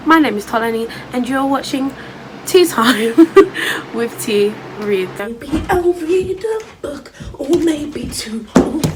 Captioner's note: laughs